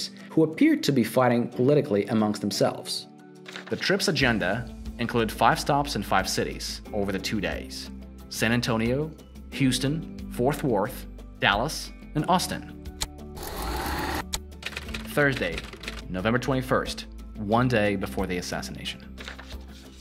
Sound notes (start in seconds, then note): 12.8 keyboard clacking; 13.4 tape rewinding